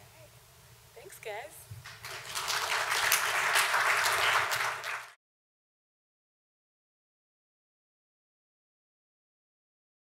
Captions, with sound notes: All right. Thanks, guys. (audience applauds)